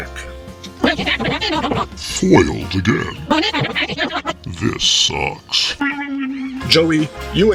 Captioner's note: tickula noises